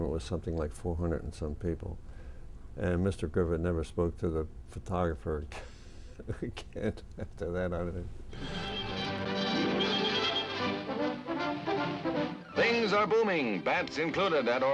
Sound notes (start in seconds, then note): 8.3 laughing; 8.4 triumphant music